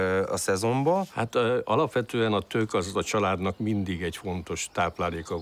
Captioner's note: speaking in foreign language